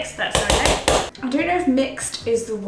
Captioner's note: spoon clanking